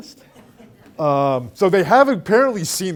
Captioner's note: all laughing